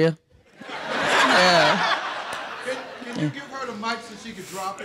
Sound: audience laughing

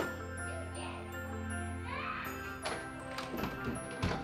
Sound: kids yelling

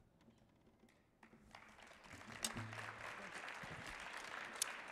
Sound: audience applauding

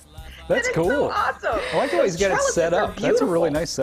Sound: laughter

